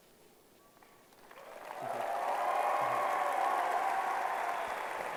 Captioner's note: applause